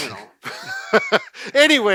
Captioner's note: both laugh